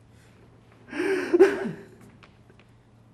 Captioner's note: λυγμός